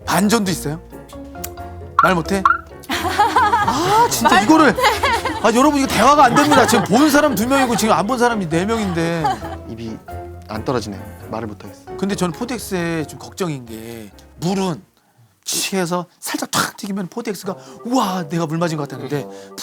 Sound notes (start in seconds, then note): 5.4 frustrated